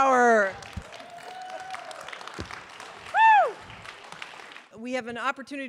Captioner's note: audience applause